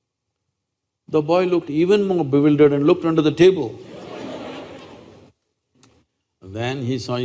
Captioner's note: laughter